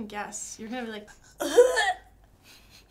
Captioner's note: gagging